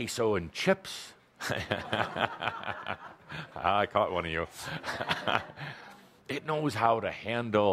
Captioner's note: laughter, chuckling